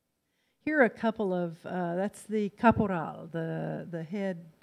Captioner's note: in foreign language